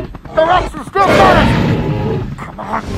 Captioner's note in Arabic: هدير تي ريكس